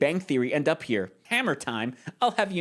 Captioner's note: nasally voice